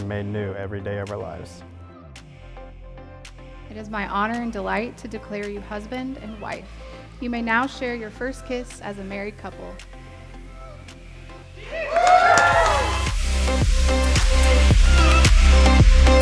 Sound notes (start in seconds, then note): 1.9 soft, happy music; 11.6 crowd cheering; 12.9 upbeat, happy music